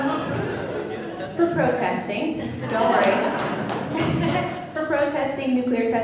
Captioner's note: laughing; laughing and clapping